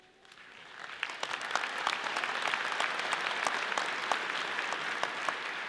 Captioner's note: audience applauding